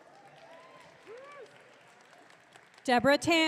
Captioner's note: audience cheering